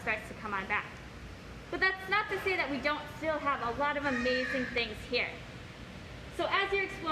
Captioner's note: bird squawk